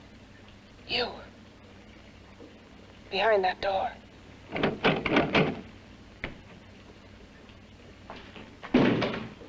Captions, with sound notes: You. Behind that door. (doorknob rattling)